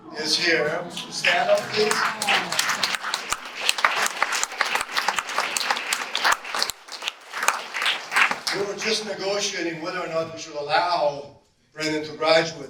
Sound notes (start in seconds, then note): 0.7 audience warmly awwws and applauds; 2.5 audience applause